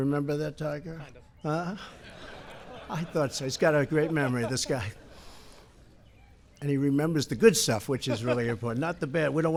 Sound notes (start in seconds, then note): 1.7 laughter